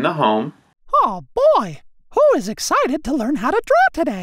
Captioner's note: recorded Voice